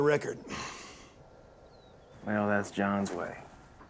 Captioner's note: sighs